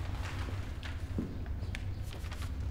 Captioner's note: paper rustling